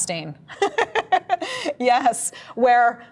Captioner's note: laughs